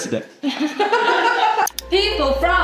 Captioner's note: laughs